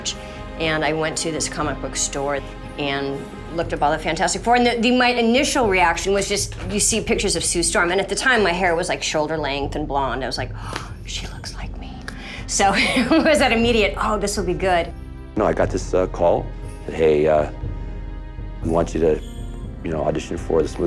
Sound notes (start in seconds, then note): 12.1 gasp